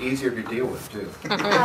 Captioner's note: laughter